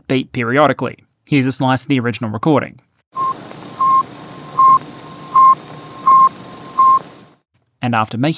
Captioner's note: beep beep beep beep beep beep